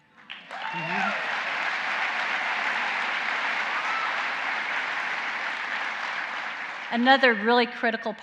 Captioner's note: applause